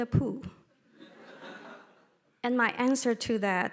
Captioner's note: audience laughing